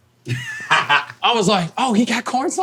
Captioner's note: laughing